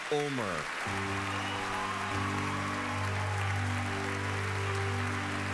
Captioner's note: cheering and applause